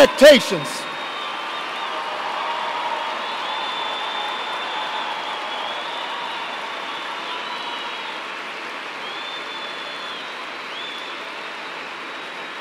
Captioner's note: cheers and applause